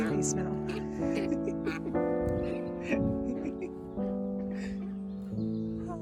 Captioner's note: laughing continues